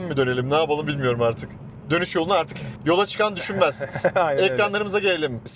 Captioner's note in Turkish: kahkaha